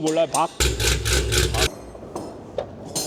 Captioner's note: bang bang bang bang bang